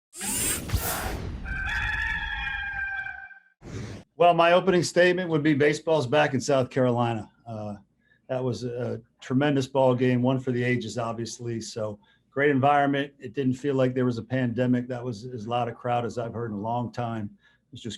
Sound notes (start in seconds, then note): 0.1 mechanical whirring; 1.4 rooster crows